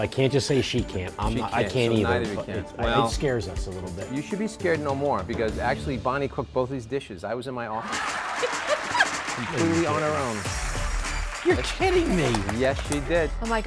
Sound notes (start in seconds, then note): 7.8 audience clapping; 8.0 laughing